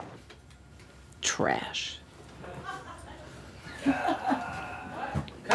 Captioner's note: laughter